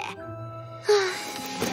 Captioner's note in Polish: wzdycha